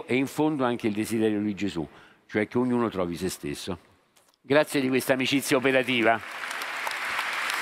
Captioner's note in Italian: Applauso